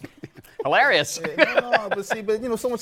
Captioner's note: laughs